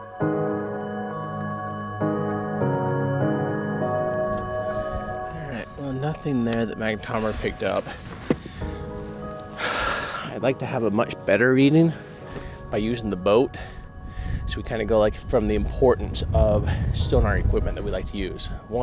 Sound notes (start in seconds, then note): 9.5 sighing